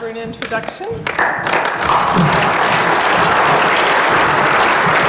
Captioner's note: applause